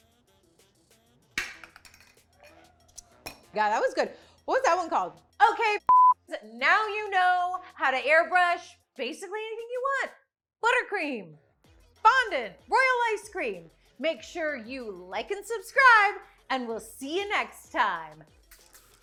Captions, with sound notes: God, that was good. What was that one called? Okay (beep). Now you know how to airbrush basically anything you want. Buttercream, fondant, royal ice cream. Make sure you like and subscribe and we'll see you next time.